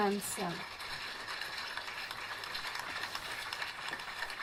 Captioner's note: crowd clapping